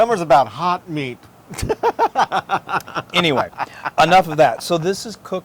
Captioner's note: laugh